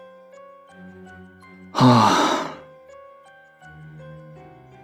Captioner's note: sigh